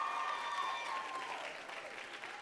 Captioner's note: applause